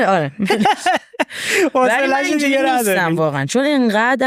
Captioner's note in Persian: خنده